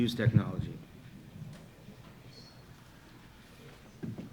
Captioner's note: walking